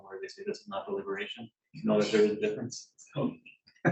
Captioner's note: chuckles